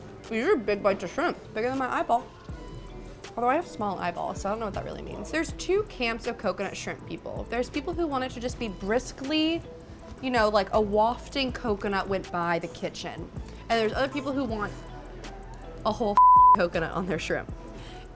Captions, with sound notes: These are a big bunch of shrimp. It's bigger than my eyeball. Although, I have small eyeballs, so I don't know what that really means. There's two camps of coconut shrimp people. There's people who want it to just be briskly, like a wafting coconut went by the kitchen. And there's other people who want a whole (beep) coconut on their shrimp.